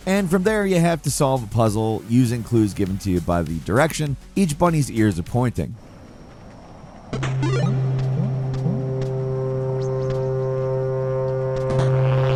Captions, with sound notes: and from there you have to solve a puzzle using clues given to you by the direction each bunny's ears are pointing. (8-bit sound effects) (eerie music)